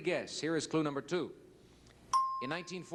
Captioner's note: bell ding